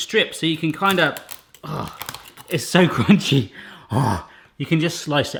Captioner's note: crunching